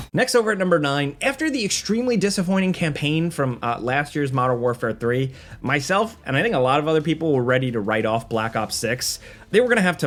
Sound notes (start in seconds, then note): none